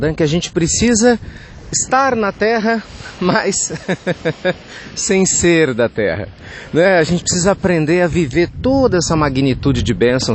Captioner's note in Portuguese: risos